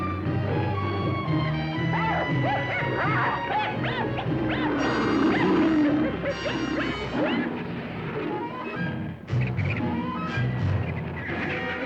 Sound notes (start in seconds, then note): 8.6 vultures squawk